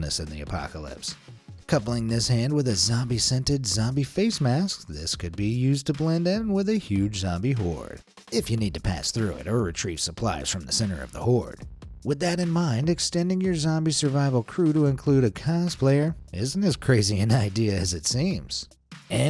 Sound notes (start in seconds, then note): none